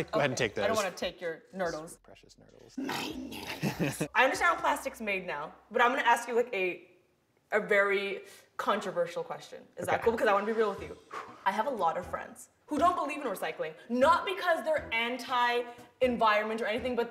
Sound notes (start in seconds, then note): 3.0 laughs; 11.0 exhales sharply